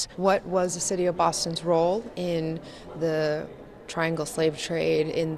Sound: none

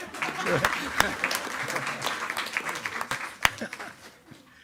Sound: attendees clapping

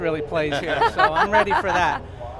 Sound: laughter

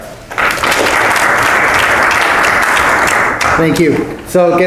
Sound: applause

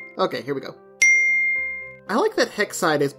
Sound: chimes

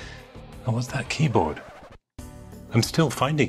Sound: record scratches

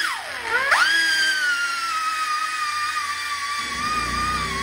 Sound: grinding

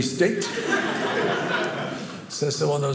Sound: audience laughing

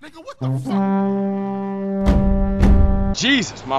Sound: blows horn

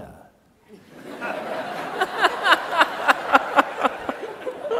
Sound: audience laughs

